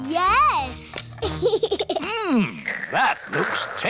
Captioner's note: giggles